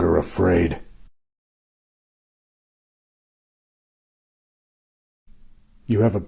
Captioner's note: silence